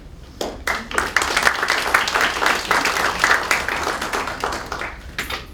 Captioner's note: applause